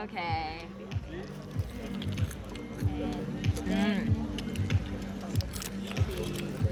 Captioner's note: eating sound